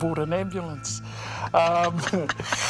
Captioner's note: both laughing